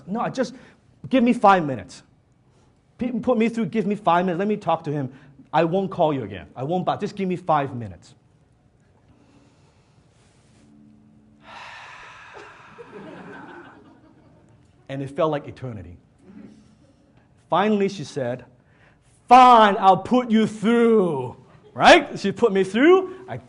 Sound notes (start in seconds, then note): 11.4 Dan Lok sighs; 12.6 audience laughs